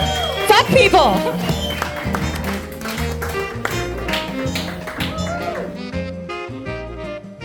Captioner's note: audience applauding; upbeat music